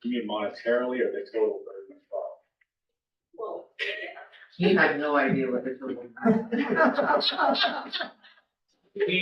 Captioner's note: laughter